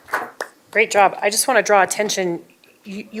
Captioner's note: applause